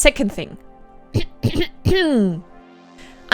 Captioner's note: clearing throat